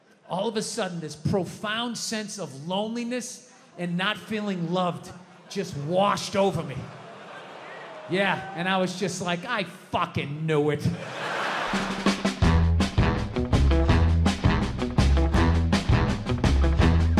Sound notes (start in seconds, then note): 7.0 crowd laughs; 10.8 crowd laughs; 11.4 upbeat music